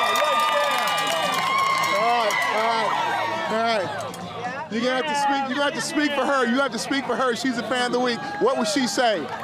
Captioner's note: cheering